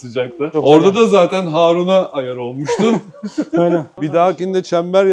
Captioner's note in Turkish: kahkaha